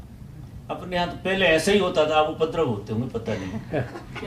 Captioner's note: audience laughs